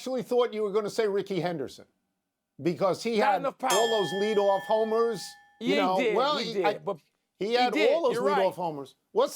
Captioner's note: bell